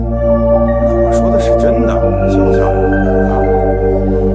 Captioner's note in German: Lachen